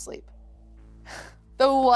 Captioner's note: sighs